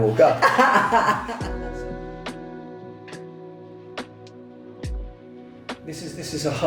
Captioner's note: soft music; laughs